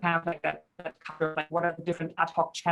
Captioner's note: crackling sound drowns speaker